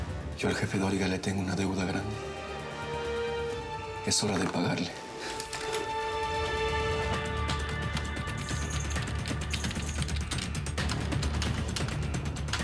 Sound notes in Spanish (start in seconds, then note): 7.8 sonido al teclear